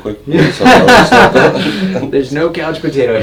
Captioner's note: loud laughing